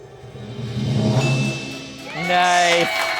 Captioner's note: drum roll hisses; bell chimes